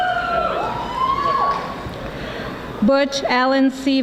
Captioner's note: audience applauding